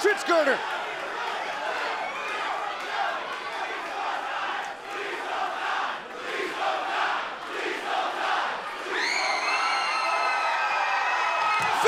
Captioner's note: crowd cheering